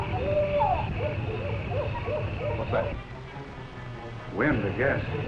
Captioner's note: owl hooting